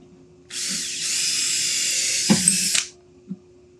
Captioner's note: drill whirring